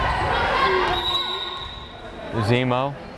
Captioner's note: whistle blares